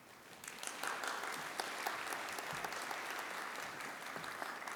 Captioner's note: audience applauding